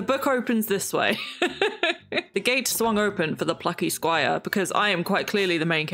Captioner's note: laughs